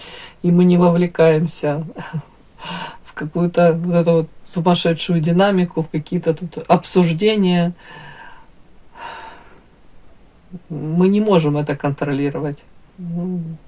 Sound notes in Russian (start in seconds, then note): 8.0 вздыхает